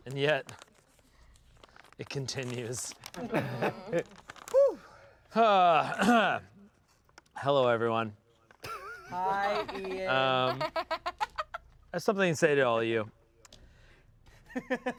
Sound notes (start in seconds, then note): 10.4 laughs; 14.5 laughs